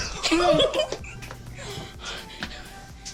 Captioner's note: giggling